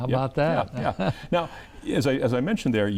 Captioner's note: chuckles